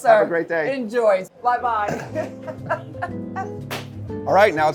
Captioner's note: laughs